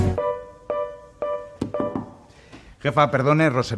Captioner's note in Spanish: Llaman a la puerta